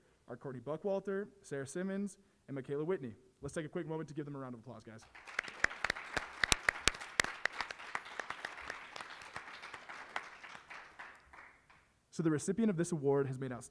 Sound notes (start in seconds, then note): 5.0 applause